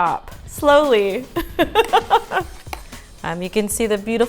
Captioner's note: laughing